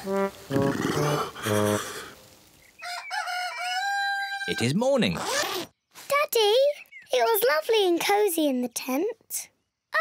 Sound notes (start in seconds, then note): 0.3 shivering; 2.8 cockerel crows